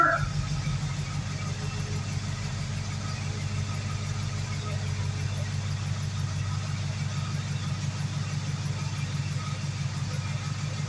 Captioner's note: slow engine idle